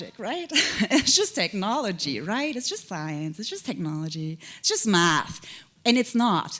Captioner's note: chuckle